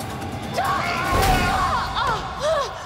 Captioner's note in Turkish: Bağırma sesleri; Tokat sesi